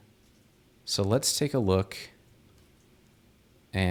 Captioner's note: none